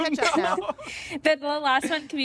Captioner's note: laughter